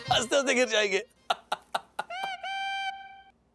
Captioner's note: Rajesh laughs